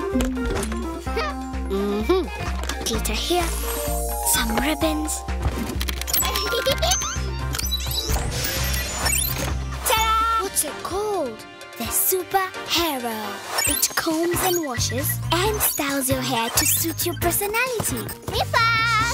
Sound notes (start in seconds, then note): 1.6 humming; 6.0 chiming; 6.3 Noah giggles; 7.0 clicking; 7.5 beeping